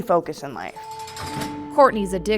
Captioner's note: bars clinking